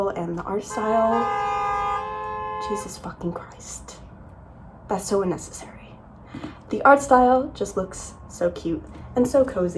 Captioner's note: loud car honking